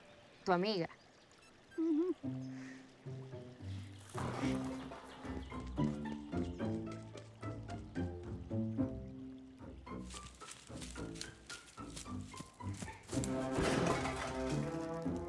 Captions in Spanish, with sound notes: ¿Tu amiga? Mmm-hmm. [golpes] [golpes]